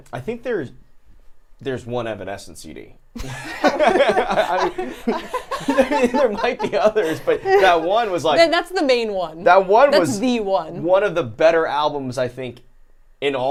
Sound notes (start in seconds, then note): 3.2 laughs